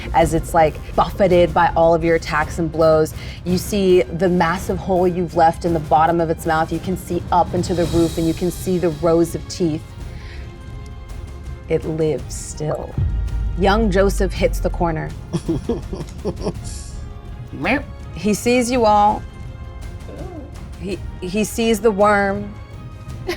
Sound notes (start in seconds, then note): 15.3 laughs